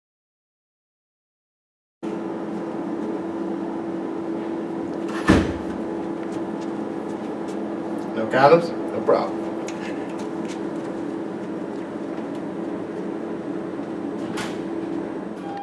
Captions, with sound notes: [AIR CONDITIONER HUMMING] [DOOR SLAMMING SHUT] No condoms, no problem.